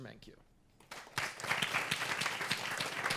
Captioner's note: applause